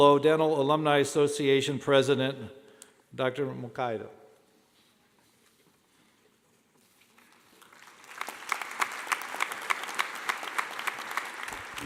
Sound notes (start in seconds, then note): 7.5 clapping